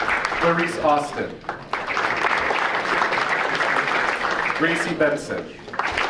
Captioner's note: audience applauding